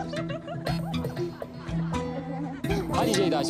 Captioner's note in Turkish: Çocuklar gülüyor